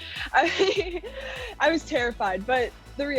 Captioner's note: laughing